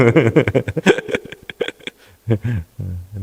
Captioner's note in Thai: เสียงหัวเราะ